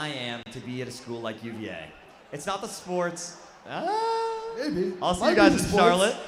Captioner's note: applause